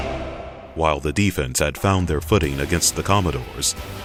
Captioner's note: voiceover